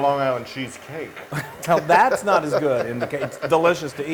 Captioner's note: laugh